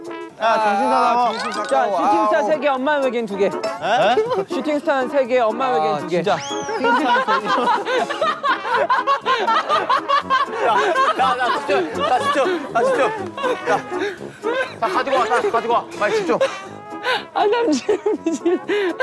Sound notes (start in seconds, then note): 11.0 rolls over the floor while laughing